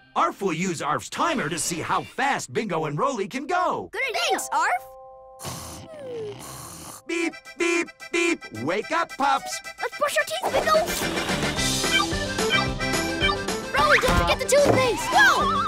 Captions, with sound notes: ARF will use ARF's timer to see how fast Bingo and Rolly can go! -Good idea! -Thanks, ARF! (snoring) Beep, beep, beep! -Wake up, pups! -Let's brush our teeth, Bingo! (beeping) Rolly, don't forget the toothpaste! Whoa!